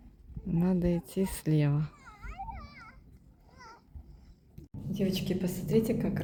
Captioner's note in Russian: плач